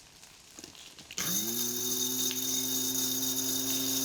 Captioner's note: motor whirring